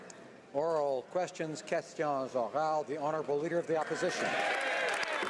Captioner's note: applause